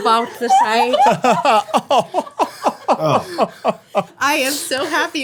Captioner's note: everyone laughing